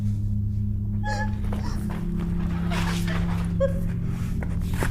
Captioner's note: Gabriella sobs